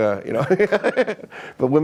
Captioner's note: laughing